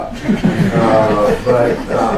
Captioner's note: laughter